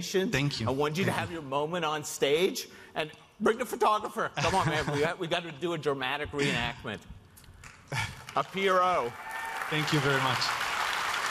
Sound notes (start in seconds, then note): 7.9 audience clapping